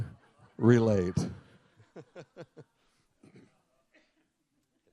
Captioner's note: laughs